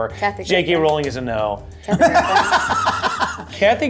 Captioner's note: laughs